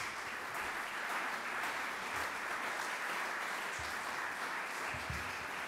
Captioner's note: audience applaudes